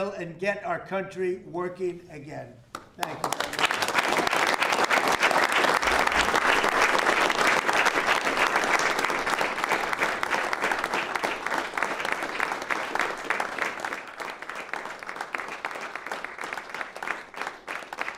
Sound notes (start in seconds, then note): 5.0 applause